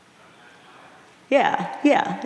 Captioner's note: audience murmuring